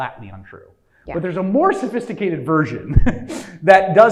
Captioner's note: laughs